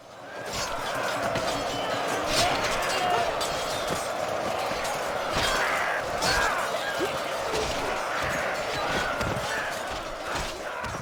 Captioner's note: battle sounds